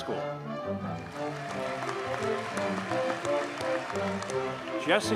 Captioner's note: audience cheers and applauds